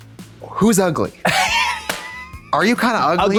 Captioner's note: Katya hee-hees